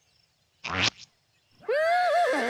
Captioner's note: neighing